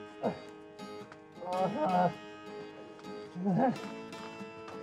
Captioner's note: Isaac groaning and exclaiming